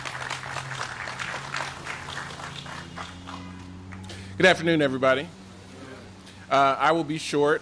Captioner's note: applause